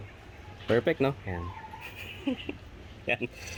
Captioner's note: laughs at his own absurdity